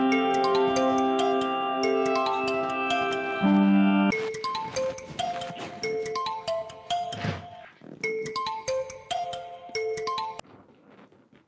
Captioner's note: suena el teléfono